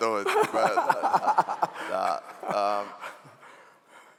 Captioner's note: laughing